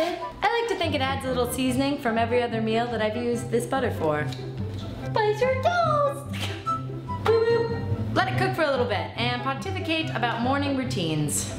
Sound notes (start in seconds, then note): 6.3 laughs